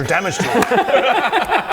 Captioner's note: supportive giggles